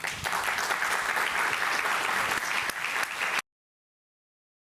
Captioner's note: audience applauds